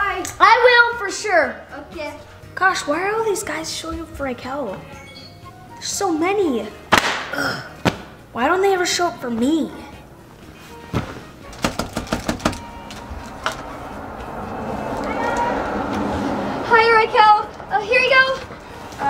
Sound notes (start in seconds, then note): 11.5 knocking